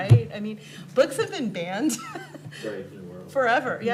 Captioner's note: laughs